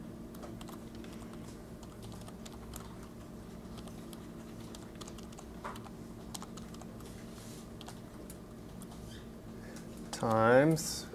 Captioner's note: typing